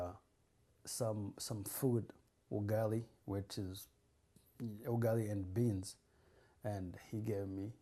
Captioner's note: non-english